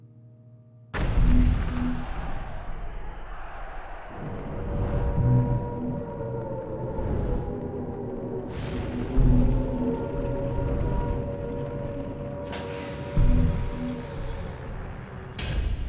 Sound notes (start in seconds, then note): 0.8 explosions. Sirens; 8.8 sirens